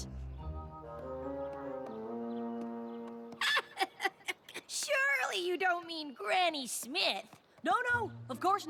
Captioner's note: laughter